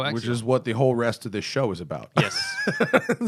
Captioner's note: laughter